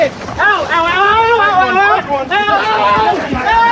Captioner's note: scrcreamimingng